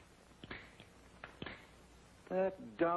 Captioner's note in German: klicken